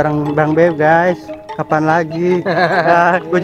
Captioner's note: laugh